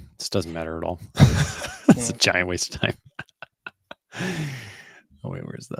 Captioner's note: laughs